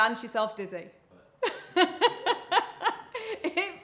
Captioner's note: laughing